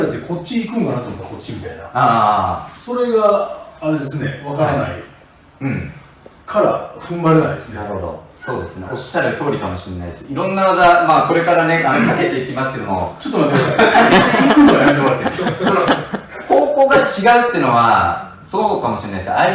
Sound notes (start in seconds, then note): 13.6 laughs